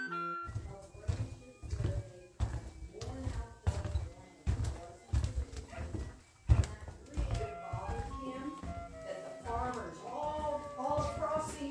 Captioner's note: footsteps